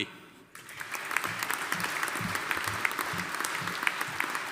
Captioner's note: audience applauding